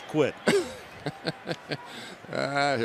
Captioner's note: laughs